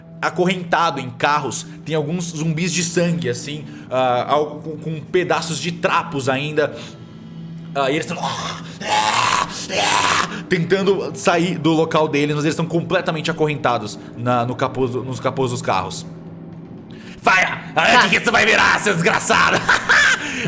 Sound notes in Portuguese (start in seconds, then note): 8.1 rosnados; 19.3 risada